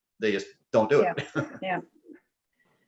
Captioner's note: laughs